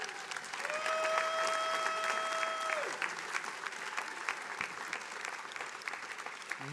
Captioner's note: attendees applauding